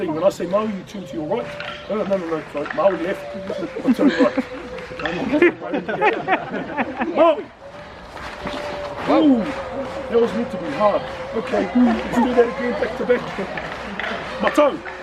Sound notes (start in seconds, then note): 0.0 chanting in distance; 5.3 group laughs